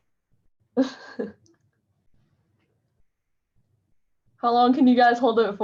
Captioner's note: chuckles